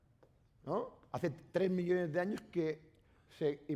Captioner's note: speaking spanish